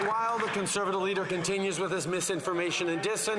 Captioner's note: some Applause